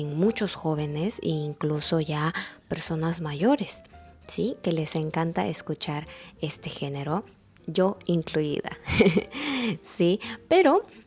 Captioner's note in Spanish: risas